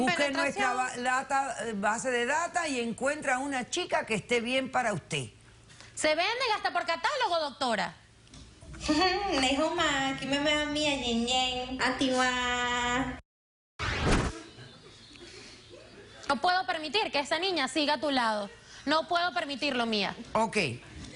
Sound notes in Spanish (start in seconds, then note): 9.8 Habla chino en el video